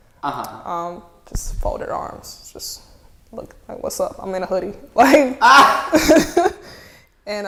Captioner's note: laughing offscreen